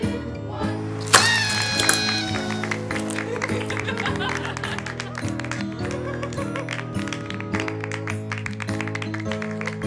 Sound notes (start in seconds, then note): 1.2 party horn, laughter, applause